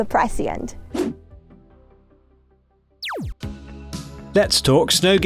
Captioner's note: cat swooshes; laser pulses